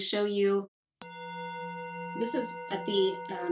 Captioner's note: bell rings